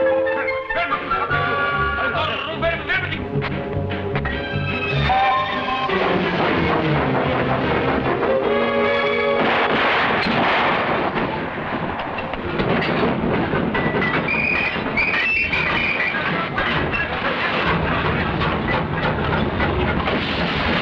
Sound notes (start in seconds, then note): 0.2 officers shouting in foreign language; 9.3 gun firing; 11.5 train chugging; 14.2 whistles blowing